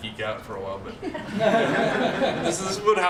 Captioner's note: laughter